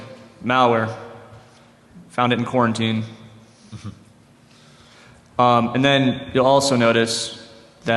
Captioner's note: laughter